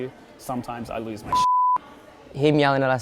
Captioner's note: beep